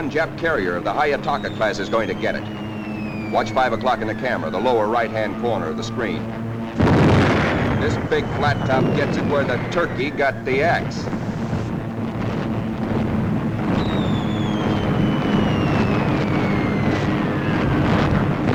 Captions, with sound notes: Jap carrier of the Hayataka Clas is going to get it. Watch 5:00 in the camera, the lower right hand corner of the screen. This big flat top gets it where the turkey got the axe. (heavy gunfire and explosions)